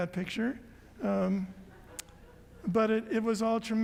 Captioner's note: audience laughs